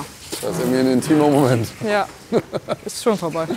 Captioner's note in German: lacht